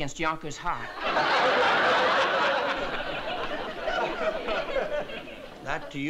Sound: laughter

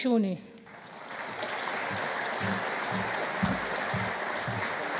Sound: audience applauding

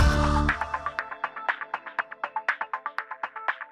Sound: electronic tones

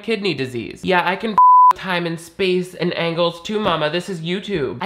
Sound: beep

